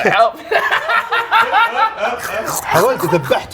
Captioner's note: laughs